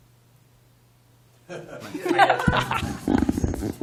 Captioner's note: laughter